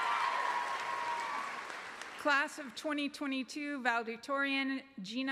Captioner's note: applause